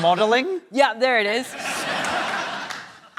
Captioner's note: laughter